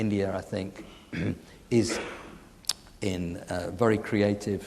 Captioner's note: clears throat